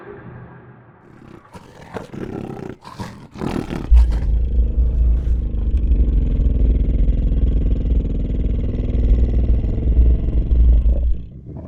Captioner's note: dire wolf snarls and growls